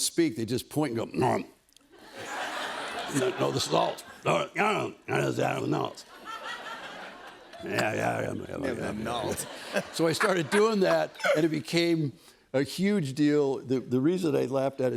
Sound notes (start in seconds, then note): 4.0 grumbling